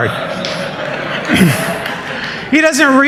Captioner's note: laughter